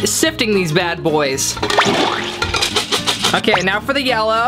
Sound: cheerful music; liquid squelching

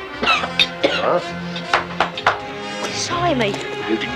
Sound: Ned coughing

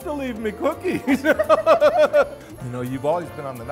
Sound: laughs

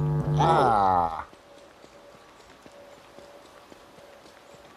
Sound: mic becomes distorted

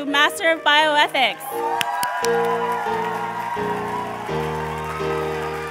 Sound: cheers and applause

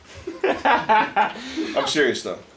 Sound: laughs

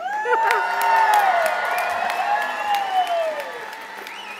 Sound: cheers and applause

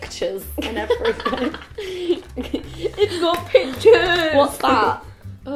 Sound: giggling

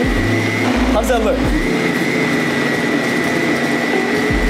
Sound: blender whirring

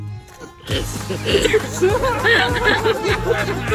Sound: patrons laugh

